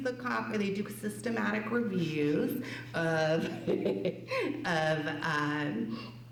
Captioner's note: laughs